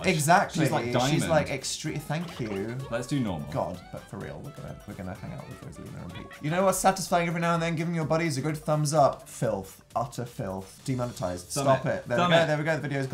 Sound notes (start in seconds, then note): 6.1 reading flatly